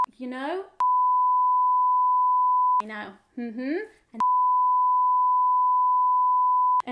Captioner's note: beep